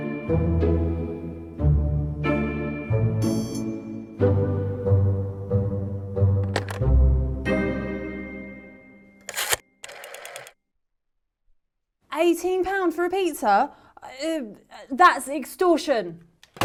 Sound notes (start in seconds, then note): 0.0 playful suspenseful music continues; 6.5 receiver rattles; 9.8 rotary dial scrapes and clicks